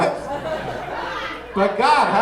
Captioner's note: audience laughing